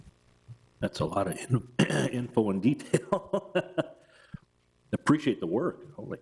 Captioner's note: laughs